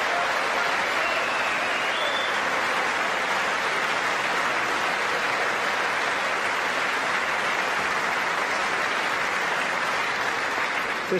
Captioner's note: applause